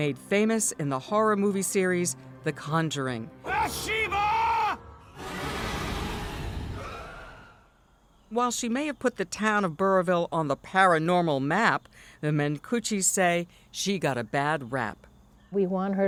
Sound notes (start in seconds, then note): 5.6 chilling music; 7.1 exhales